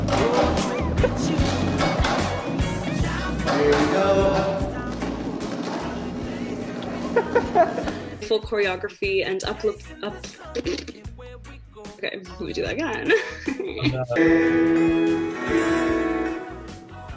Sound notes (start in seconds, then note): 3.5 offscreen Voice; 6.9 laughs; 9.5 stutters; 15.6 chuckles